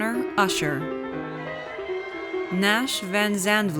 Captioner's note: audience cheers